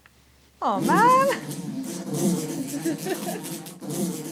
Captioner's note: buzzing noise